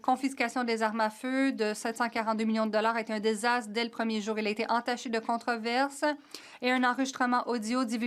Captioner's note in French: voix de l'interprète